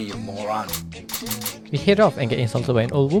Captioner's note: click click click